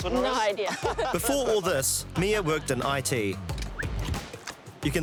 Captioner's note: both laugh